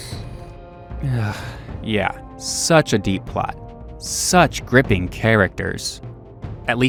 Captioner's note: sigh